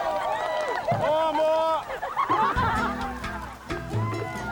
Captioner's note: islander chants; gentle tribal music